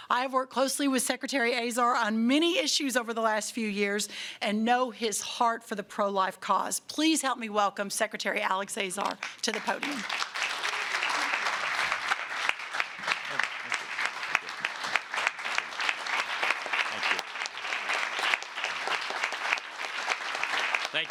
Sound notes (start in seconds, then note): 10.5 applause